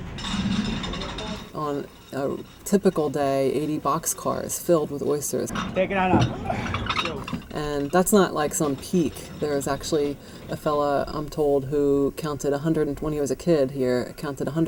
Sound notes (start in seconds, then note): 0.1 train chugging; 5.6 hand cart wheels clanking –Conductor directing laborer to “Take it on up.”